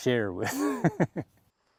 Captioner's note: laughter